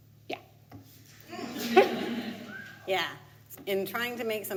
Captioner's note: audience laughs